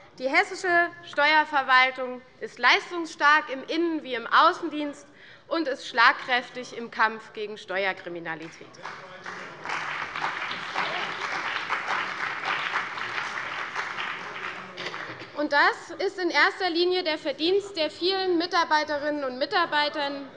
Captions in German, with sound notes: Die hessische Steuerverwaltung ist leistungsstark im Innen- wie im Außendienst und schlagkräftig im Kampf gegen Steuerkriminalität. [Beifall bei der CDU und dem BÜNDNIS 90/DIE GRÜNEN] Das ist in erster Linie das Verdienst der vielen Mitarbeiterinnen und Mitarbeiter